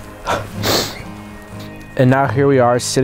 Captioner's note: sniffling